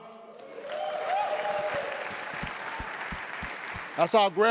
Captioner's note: audience cheering and applauding